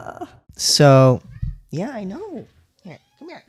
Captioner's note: meow